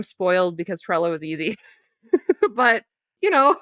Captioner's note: giggles